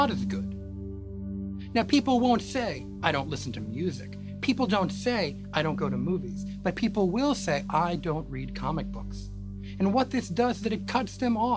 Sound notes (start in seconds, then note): none